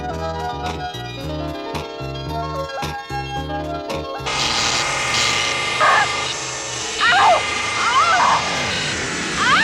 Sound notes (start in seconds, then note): 4.2 zapping; 4.4 wailing